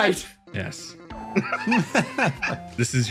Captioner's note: laughs